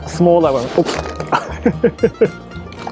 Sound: laughs

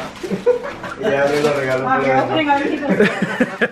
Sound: man speaking foreign language in background; laughing

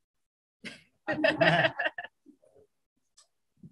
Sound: laughter

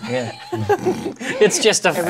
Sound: laughter

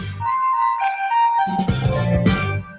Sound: bicycle bell

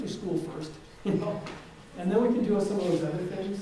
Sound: chuckles

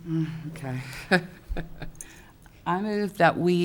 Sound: laughs

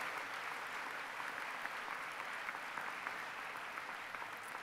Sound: applause

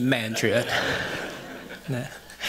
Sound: audience chuckles

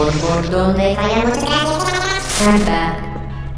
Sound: GLaDOS' voice is speeding up

